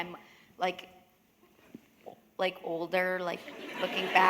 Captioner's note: laughter